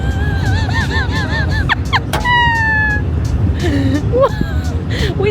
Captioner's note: wheezes